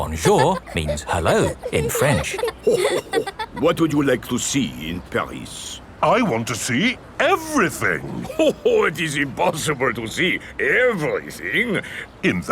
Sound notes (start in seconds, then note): 2.9 chuckles